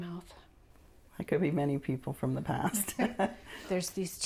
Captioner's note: laughing